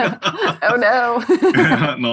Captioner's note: laugh